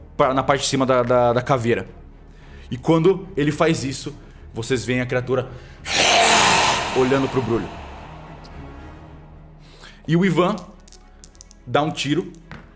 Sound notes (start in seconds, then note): 5.8 arghhr